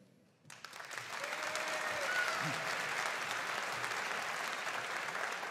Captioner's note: audience cheering and applauding